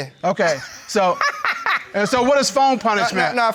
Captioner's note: laughs